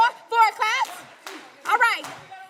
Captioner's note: all clapping